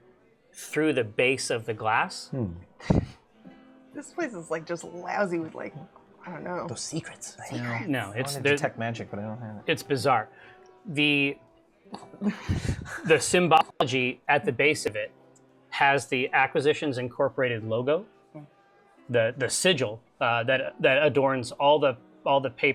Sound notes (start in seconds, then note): 2.9 laughs; 12.0 laughing